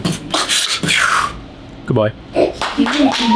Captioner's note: beatboxing